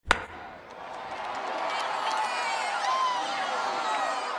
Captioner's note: crowd cheering